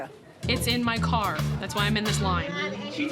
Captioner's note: none